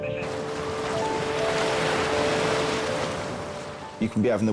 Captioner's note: waves rustling